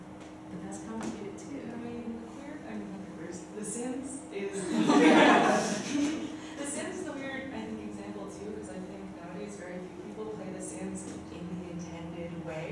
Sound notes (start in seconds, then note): 4.5 laughter